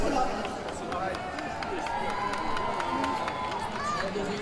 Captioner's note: crowd applause